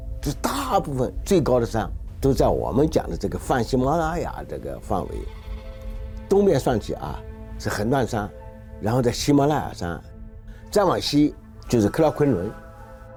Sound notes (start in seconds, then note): 0.0 speaking in foreign language; 2.3 dramatic music; 5.0 speaking in foreign language